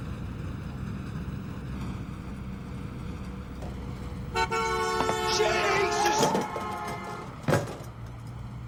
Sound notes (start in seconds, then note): 4.3 bocinazo